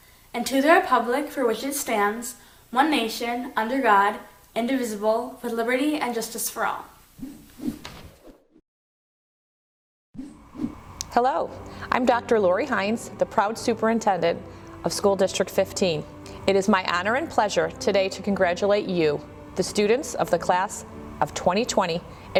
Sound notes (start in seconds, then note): 6.9 whooshing